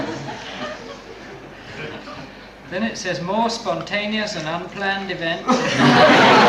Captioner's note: laughter